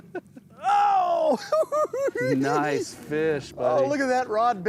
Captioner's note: laughing; giggling